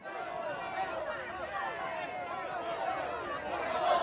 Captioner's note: indistinct shouting